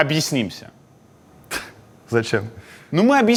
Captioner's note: chuckles